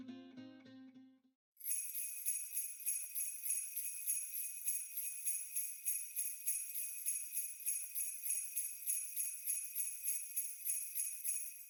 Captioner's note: sleigh bells